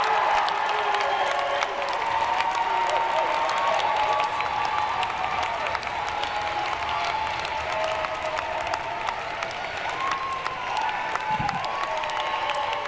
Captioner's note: cheering and applause